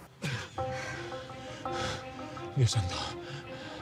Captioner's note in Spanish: Paco jadea